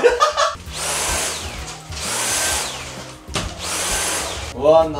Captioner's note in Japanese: ←掃除機がけの音